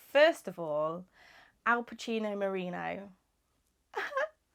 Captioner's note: laughs